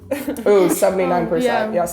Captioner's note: laughing